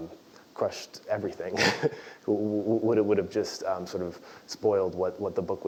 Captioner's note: laugh